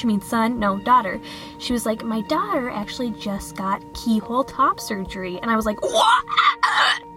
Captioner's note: /dinosaur hybrid noises